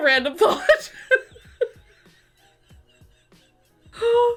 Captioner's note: laughs